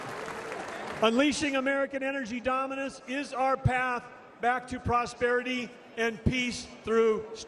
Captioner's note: applause